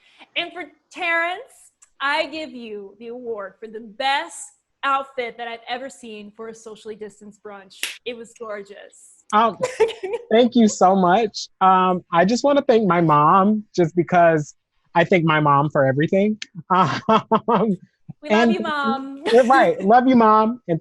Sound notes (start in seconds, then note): 16.5 laughs